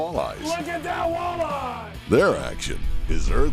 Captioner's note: voiceover